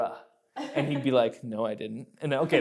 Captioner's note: laughing